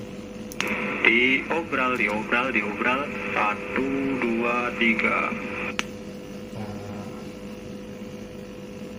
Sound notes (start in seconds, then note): 0.9 recorded voice heared